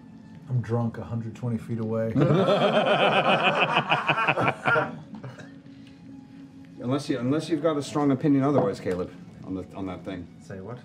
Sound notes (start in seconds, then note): 2.1 laughter